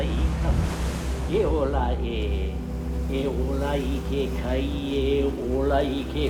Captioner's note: chanting in foreign language